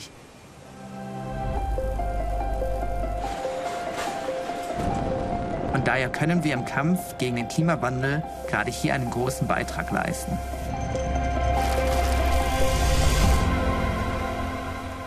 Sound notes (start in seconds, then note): 5.3 non-english speech